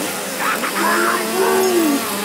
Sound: laughing evilly

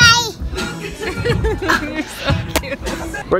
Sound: laughs

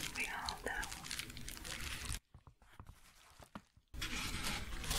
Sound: shuffling

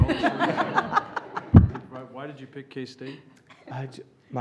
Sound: laughter

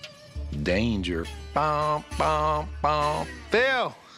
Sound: imitates alarm blaring

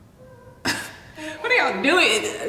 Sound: laughs

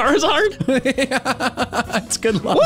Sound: laugh

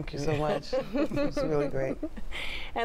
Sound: laughter

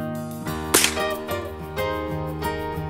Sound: loud crack!

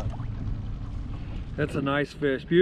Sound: boat engine idling

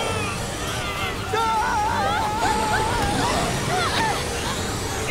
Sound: screaming

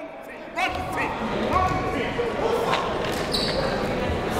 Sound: crowd talking

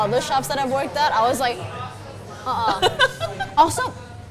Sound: giggles

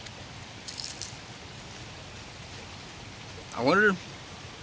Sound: crunching

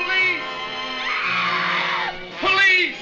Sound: screaming

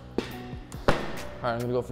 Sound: metal clanking

